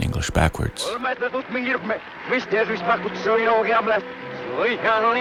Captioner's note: dialogue in English is playing backwards